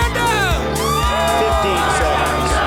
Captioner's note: crowd cheering